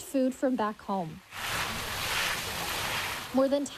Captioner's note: water splashes